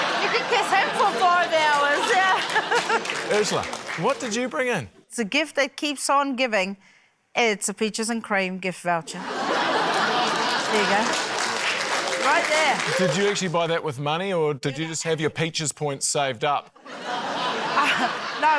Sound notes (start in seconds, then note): 0.0 laughter; 0.9 applause; 9.2 laughter, applause; 16.8 laughter